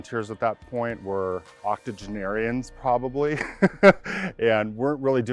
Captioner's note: laughs